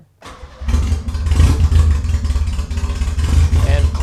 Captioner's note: engine roars